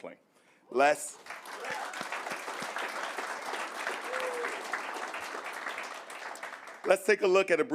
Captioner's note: applause